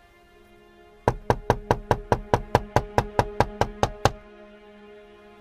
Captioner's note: knocks on window